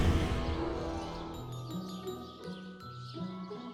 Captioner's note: birds singing